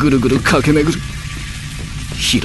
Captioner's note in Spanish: sonidos eléctricos